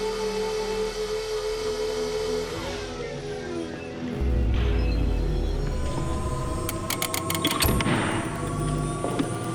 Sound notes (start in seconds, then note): 4.2 machine beeping; 6.0 tense suspenseful music